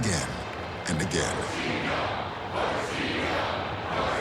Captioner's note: crowd chanting